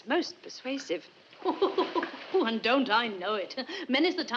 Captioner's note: laughing